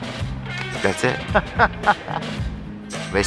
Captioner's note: laughs